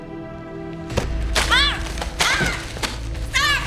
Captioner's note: Alejandra shouts